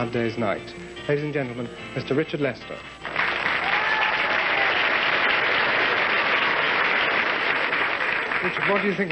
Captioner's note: cheers and applause